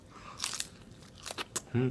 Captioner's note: crunch